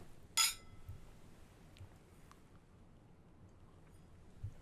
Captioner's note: glasses clink